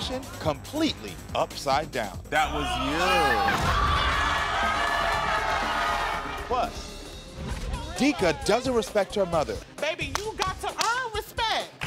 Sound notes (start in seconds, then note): 2.4 audience clamors; 10.0 claps for emphasis